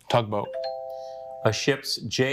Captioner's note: buzzer chimes